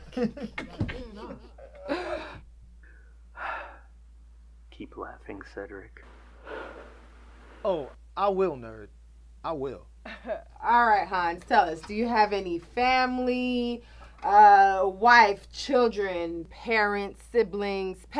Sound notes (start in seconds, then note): 0.0 Cedric and Terra chuckles; 6.4 sighs